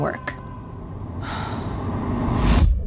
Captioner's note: sighs